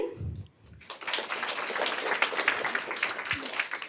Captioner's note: applause